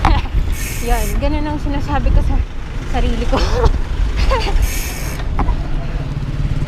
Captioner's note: laughs